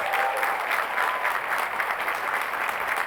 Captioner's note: applause